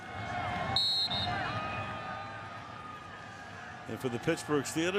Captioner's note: whistles